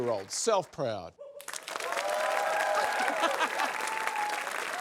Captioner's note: cheering, applause; laughs